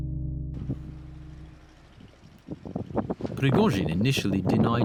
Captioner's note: wind blows